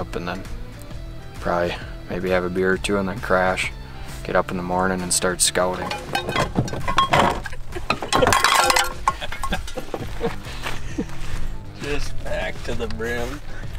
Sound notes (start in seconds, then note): 5.7 bottles clinking; 9.0 all laughing